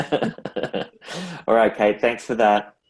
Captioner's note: laughs